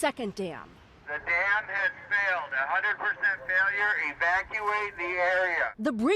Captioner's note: emergency vehicle announcing